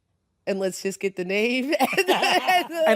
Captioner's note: laughing